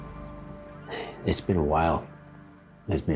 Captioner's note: sighs